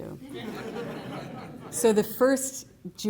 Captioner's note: laughter